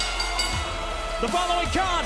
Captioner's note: bell ringing